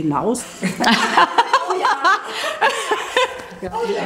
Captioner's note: laughter